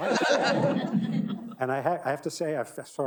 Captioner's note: audience laughing